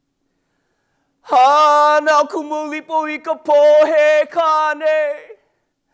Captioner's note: speaks in Hawaiian